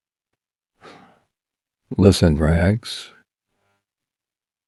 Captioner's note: sighs